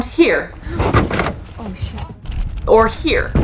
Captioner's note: metal scraping and thudding noise; person gasps